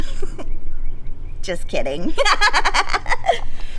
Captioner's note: laughter